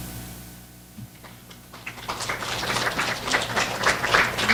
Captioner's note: applause